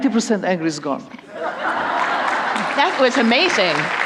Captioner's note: applause